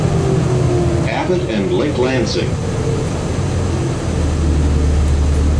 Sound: old announcement voice

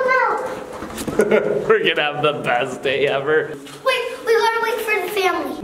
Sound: laughs

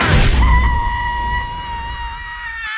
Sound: screams

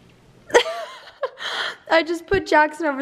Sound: laughing

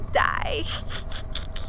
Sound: snickers

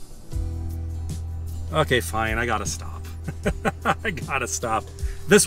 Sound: laughter

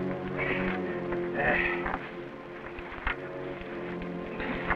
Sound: Simeon grunting

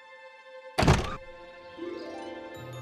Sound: birds chirp

